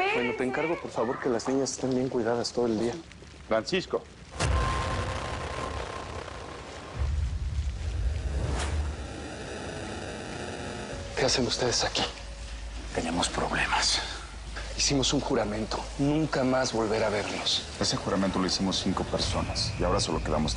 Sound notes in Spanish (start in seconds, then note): 13.5 En voz baja